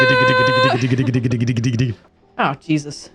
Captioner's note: imitating fast drumming